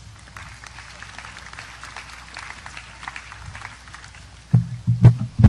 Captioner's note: audience applause